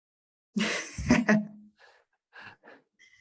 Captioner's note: laughs